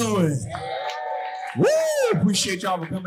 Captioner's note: audience cheering and applauding